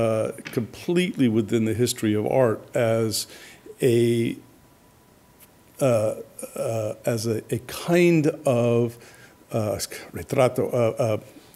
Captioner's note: spanish